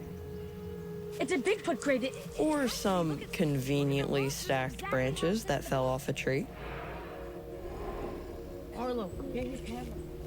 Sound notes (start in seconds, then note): 6.7 low grunts